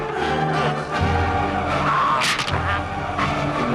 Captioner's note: raider choking; neck snaps